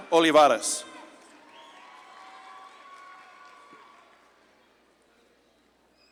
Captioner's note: audience claps and cheers